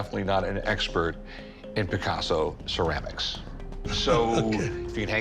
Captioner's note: chuckling